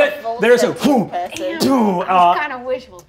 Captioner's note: imitates whooshing